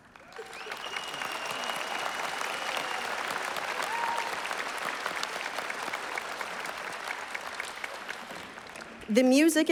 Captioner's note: applause